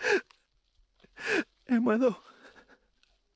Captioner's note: whimpers